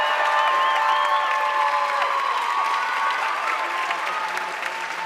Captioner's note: audience cheering and applauding